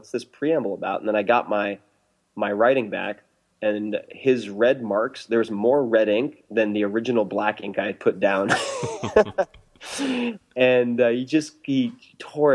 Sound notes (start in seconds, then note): 11.0 laughs